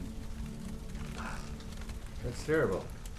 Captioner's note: crackling fire